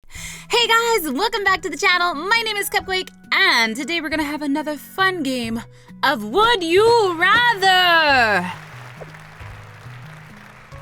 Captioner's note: clapping